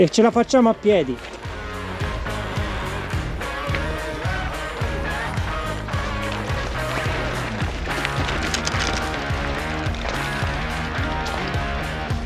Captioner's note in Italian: Applauso